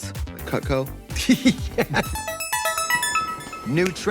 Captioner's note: laughing